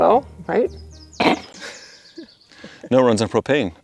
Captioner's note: chuckling